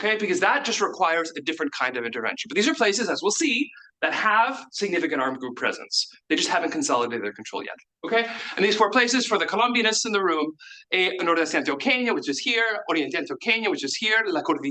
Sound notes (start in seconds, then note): 11.4 speaks in Spanish; 13.6 speaks in Spanish